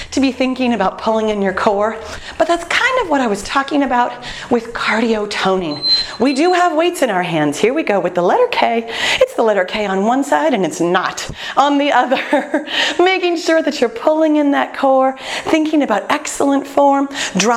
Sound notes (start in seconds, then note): 5.6 beeping